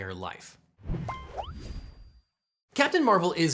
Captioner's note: ding and whoosh